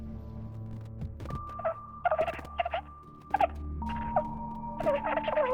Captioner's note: recording rewinding